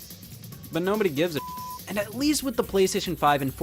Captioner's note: beep